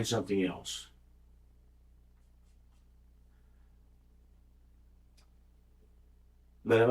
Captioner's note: silence